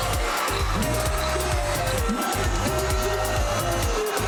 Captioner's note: crowd cheering; upbeat Trinidadian music continues